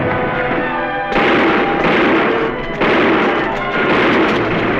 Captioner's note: gunfire